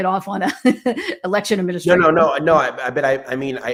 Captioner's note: laughs